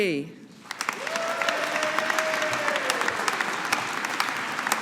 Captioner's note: audience applauding